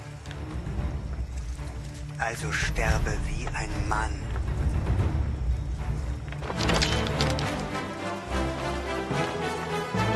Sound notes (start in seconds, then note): 7.4 stones crunching